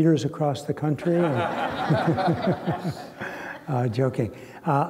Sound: laughter

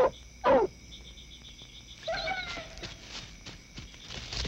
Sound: whimpering

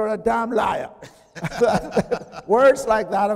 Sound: chuckling

